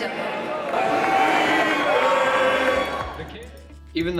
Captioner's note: crowd